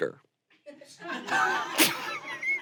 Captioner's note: audience laughs; everyone laughs